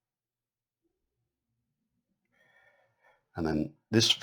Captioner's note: silence